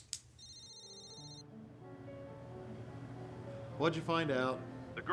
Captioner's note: cellphone ringing